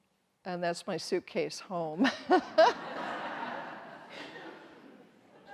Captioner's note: everyone laughs